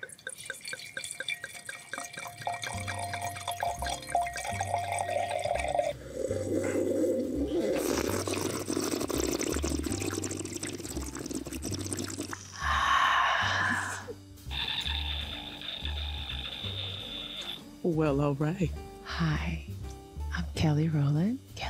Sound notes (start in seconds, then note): 0.3 wine pouring; 6.4 sipping and gurgling; 14.5 Trevante squealing